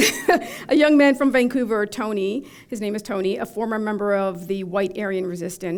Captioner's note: chuckle